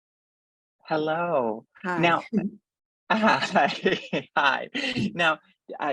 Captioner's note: laugh